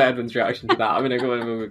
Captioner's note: laughing